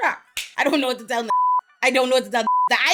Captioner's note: beep